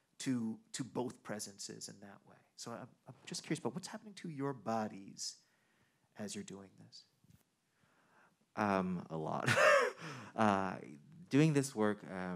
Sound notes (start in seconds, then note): 9.4 man chuckling